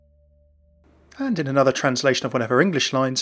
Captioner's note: voiceover